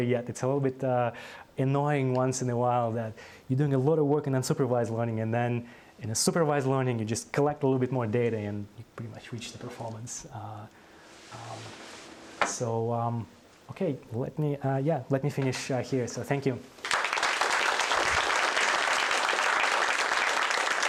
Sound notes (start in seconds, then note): 16.8 applause